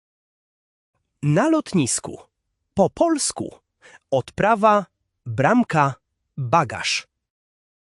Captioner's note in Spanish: en polaco